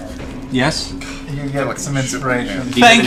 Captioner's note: none